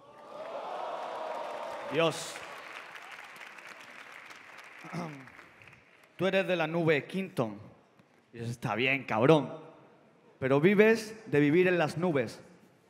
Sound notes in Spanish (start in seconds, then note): 0.0 Aplausos; 4.8 carraspea